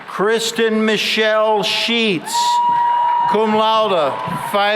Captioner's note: cheering and applause